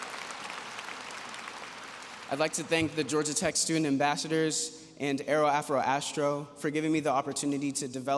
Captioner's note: applause